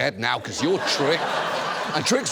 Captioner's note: studio audience laughs